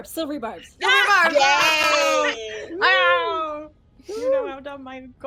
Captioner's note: everyone cheers